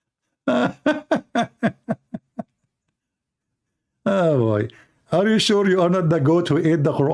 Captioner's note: Ketawa